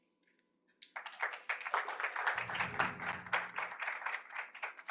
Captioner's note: audience applauding